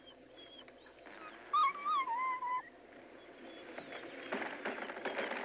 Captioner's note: dogs whimpering